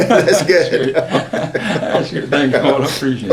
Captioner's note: laughter